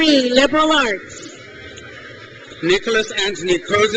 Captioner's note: crowd cheers